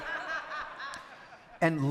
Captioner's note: audience laughing